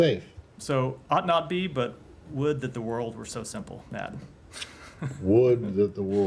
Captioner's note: laughter